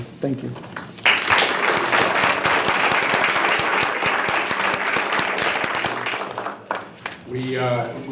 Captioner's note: applause